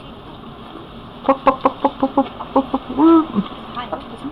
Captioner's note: chickens clucking